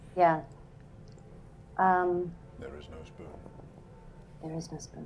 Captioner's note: quietly